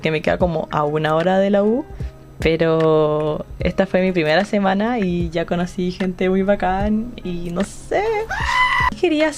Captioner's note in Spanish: grita